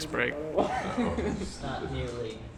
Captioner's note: laughs